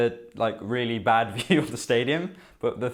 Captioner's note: laughs